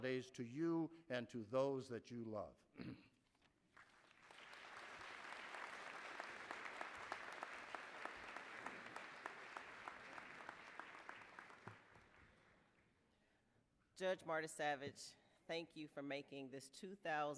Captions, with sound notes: YOU TONIGHT! MERRY CHRISTMAS AND HAPPY HOLIDAYS TO YOU AND TO THOSE THAT YOU LOVE. [APPLAUSE]